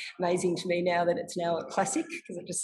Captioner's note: chuckles